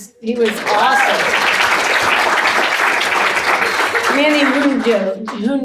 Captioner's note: audience applauding